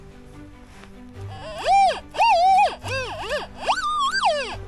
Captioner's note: squeaks